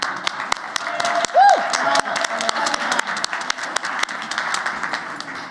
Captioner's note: applause